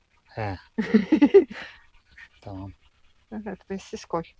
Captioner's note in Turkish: kahkaha